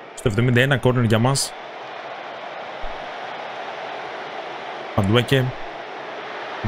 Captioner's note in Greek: χειροκρότημα